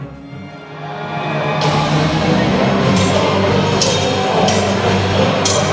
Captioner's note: people cheering; swords clashing